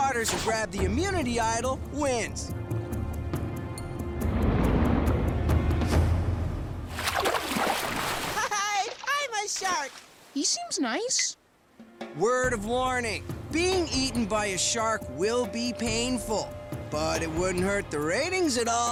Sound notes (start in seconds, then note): 6.8 water splashes